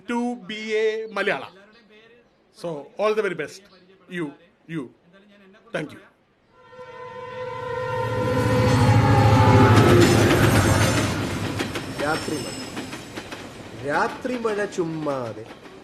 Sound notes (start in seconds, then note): 11.9 rain at night